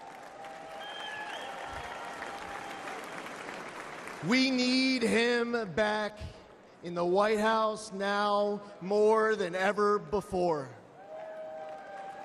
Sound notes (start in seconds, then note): 2.9 applause; 3.9 cheering